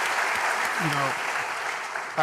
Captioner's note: applause